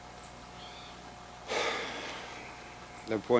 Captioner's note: sighing heavily